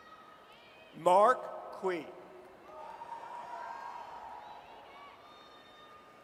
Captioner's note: audience cheers